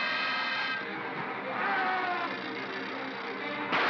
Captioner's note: propeller whirrs; suspenseful music; Bogeyman growls; propeller whirrs; suspenseful music; loud pop